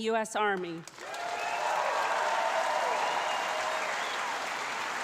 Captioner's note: loud applause